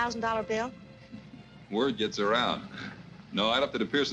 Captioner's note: chuckles